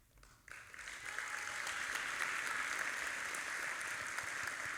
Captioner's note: audience applauding